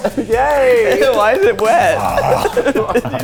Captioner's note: laughs